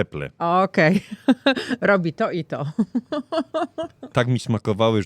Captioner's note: śmiech